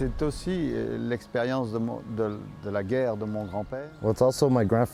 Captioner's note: speaking foreign